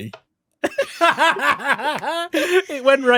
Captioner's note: laughter